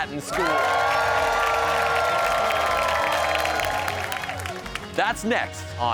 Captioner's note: cheers and applause